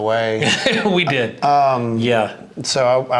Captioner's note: laughs